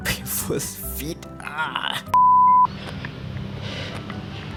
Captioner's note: beep